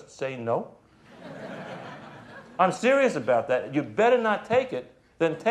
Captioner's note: crowd laughing